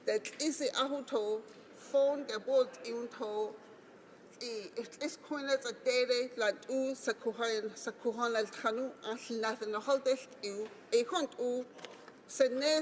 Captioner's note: speaking Alternate Language